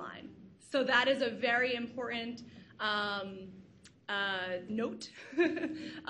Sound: laughs

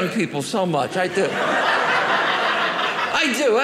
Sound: audience laughing

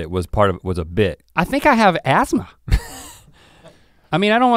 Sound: snickers

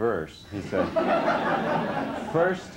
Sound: laughter

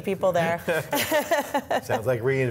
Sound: laughs

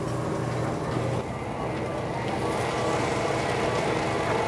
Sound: machine whirring

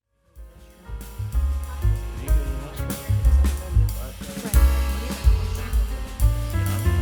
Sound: gentle music; attendees chattering

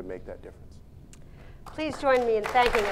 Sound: applause

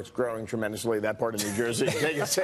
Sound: laughter

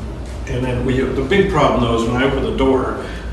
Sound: doors click

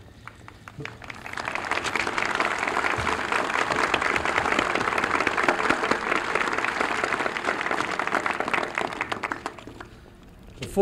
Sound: applause

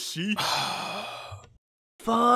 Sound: sigh

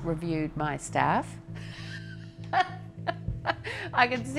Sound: laughing

